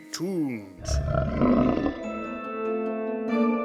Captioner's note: more growling